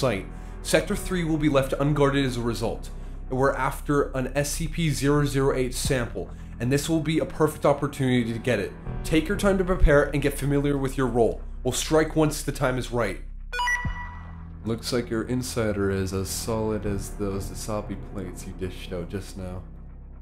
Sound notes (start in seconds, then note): 13.5 alert